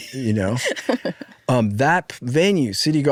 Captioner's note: laughing